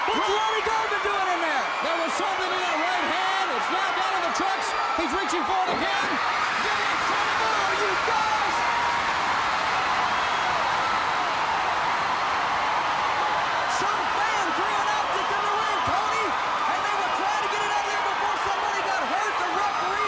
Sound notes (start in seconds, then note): 7.9 crowd cheering